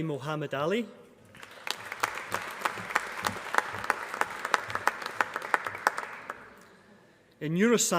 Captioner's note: applause